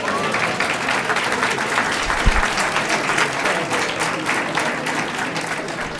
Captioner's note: applause